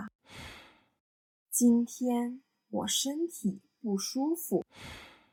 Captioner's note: sigh; sigh